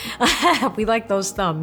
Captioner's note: laughing